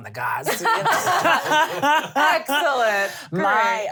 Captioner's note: laughing